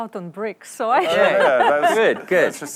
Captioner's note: laughter